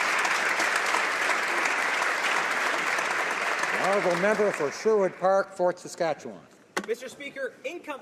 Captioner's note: applause